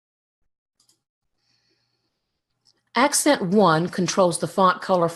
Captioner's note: mouse clicks